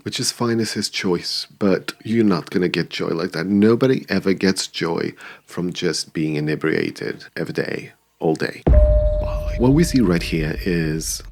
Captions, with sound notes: Which is fine as his choice, but you're not gonna get joy like that. Nobody ever gets joy from just being inebriated every day. (bell ringing) What we see right here is,